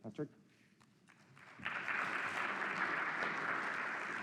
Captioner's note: applause